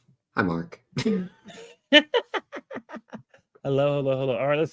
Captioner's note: laughs